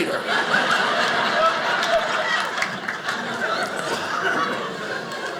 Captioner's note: audience laughing